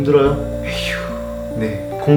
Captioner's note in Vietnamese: thở dài